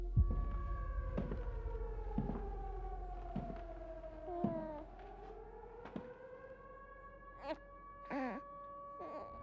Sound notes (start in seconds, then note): 0.1 mysterious music playing; 2.2 siren blaring; 4.3 baby coos; 7.1 cooing